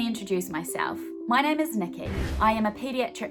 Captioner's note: swooshing